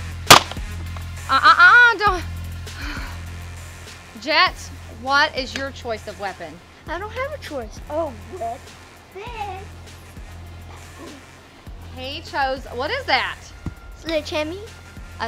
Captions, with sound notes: - Ugh, ugh, ugh, don't (sighs) Jet, what is choice of weapon? - I don't have a choice. Oh - He chose. What is that? - Sledge hammy